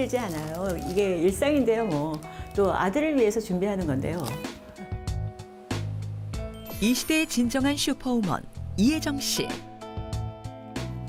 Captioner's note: voiceover